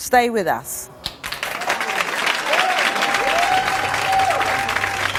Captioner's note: audience applause